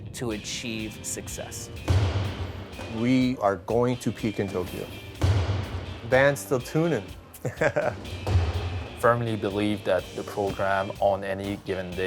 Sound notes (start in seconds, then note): 7.3 laughter